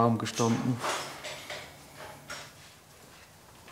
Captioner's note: tools rattle in the background